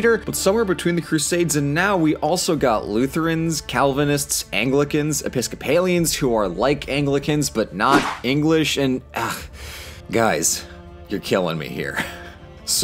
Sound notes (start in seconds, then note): 9.1 frustrated groan